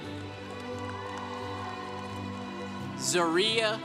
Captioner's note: congregation cheering